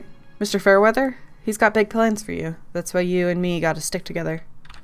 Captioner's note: none